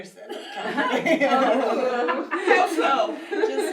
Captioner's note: laughs